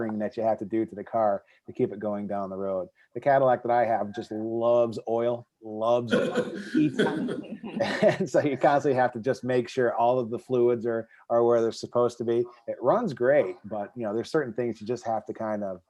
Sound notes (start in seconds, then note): 6.0 laughing